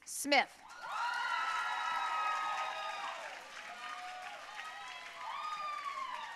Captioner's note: audience cheering and applauding